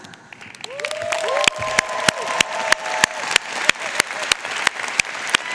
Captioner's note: audience cheering and applauding